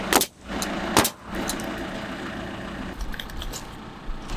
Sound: nail gun bangs

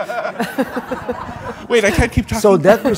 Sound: audience laughs

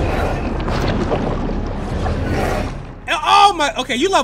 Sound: water swooshing

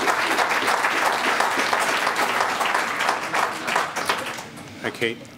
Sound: applause

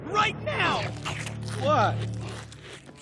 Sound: munching

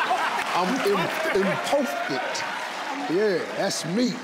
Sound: crowd cheering; in foreign language

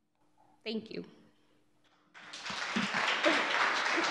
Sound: audience clapping

